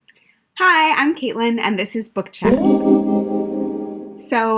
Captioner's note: sound effect